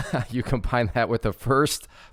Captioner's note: laughs